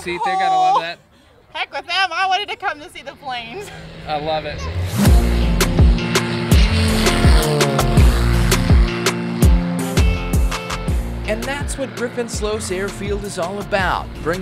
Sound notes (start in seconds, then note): 4.9 plane engine revving; 5.0 pleasant music